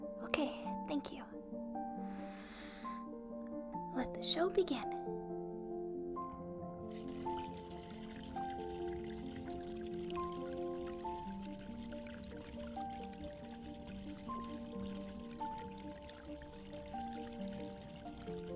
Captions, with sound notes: Okay, thank you. (deep breath) Let the show begin. (water sounds)